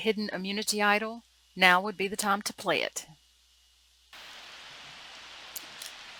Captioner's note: silence